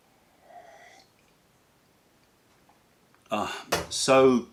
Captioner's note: sips tea